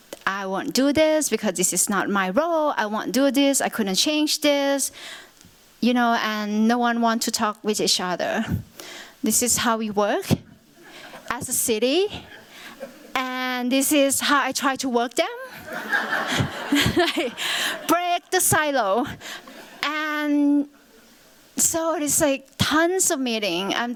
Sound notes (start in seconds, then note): 10.8 chuckling; 15.4 laughter